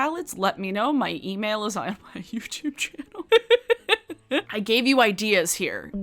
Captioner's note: laughs